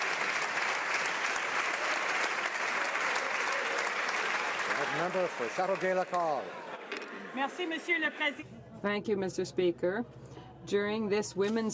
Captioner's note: cheering/Applause